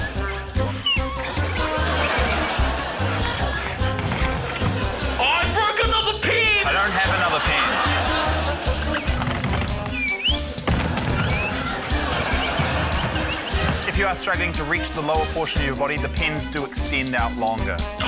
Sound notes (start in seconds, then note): 0.1 whimsical music; 1.2 laughter; 9.7 laughter; 10.8 wall thuds